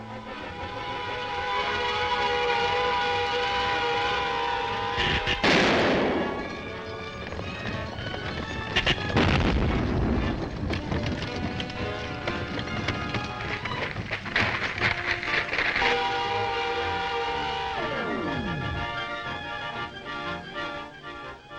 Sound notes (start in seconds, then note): 0.1 vehicle buzzing; 5.1 gun fires; 7.6 horses galloping; 8.7 gun fires; 11.7 horses galloping; 13.2 dummy falls; 16.4 vehicle buzzing; 17.7 exciting music continues